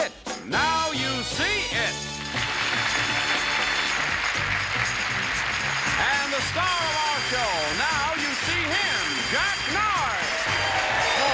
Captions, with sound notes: "Now You See It." [applause] And the star of our show, now you see him, Jack Narz.